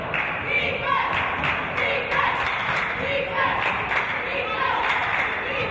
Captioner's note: audience chanting "Defense!"